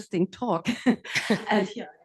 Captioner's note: laugh